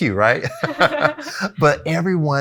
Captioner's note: both laugh